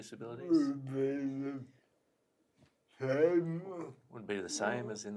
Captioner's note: murmurs